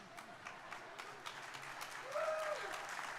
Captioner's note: crowd applauding; crowd cheering